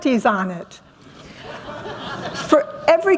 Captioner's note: laughter